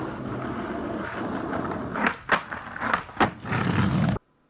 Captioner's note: skateboard wheels on sidewalks